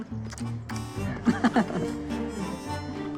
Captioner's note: chuckles